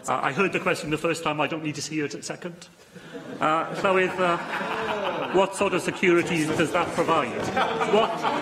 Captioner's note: laughter